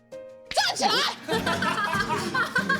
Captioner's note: coughs